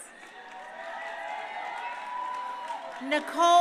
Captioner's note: crowd cheering